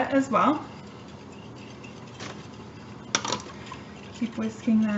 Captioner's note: stirring Sound